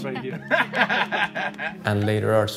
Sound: people laughing

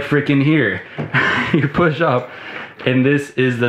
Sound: chuckling

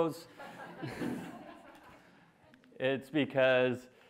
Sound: classroom laughing

